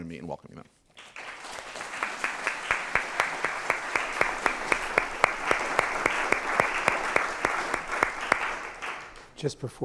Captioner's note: applause